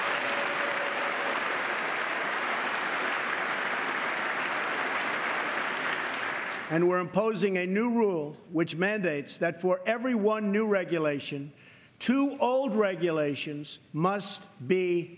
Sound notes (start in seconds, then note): 7.0 applause